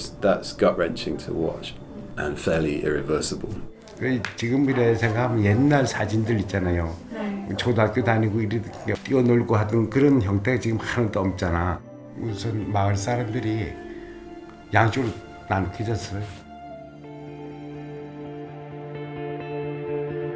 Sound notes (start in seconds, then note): 4.1 speaking in Korean